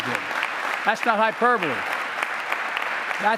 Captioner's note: applause